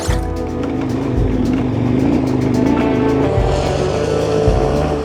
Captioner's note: engine revs; guitar music